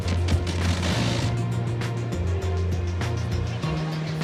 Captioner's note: fire blasting